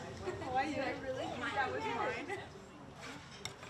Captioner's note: overlapping chattering